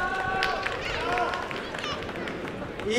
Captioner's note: applause and cheering